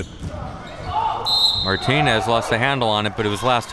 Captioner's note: whistle blowing